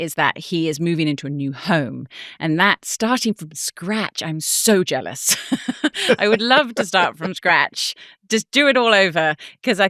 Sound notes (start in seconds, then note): 5.3 chuckles